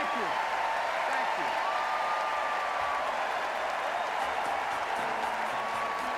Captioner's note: applause